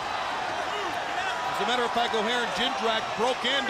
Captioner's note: crowd chatter